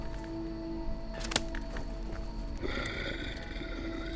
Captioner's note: soft tense music continues; swig snapping; werewolf breathing